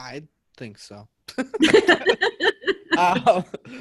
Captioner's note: all laughing